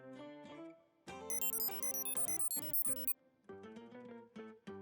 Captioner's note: beeping